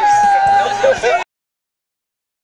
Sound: still yelling

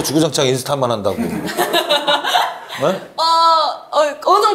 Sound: hahahaha

